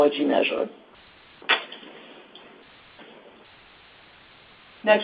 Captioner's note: silence